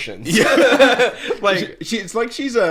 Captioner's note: laughing